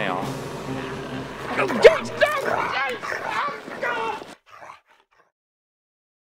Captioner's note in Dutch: maakt gromgeluiden